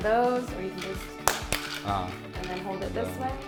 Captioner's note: slapping